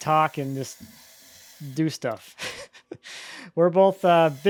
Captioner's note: laughs